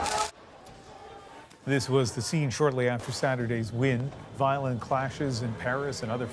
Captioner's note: shots